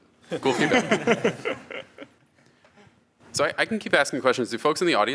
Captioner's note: laughs